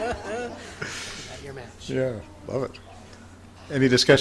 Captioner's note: laughing